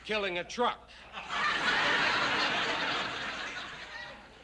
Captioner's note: laughter